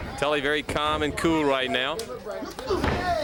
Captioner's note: crowd cheering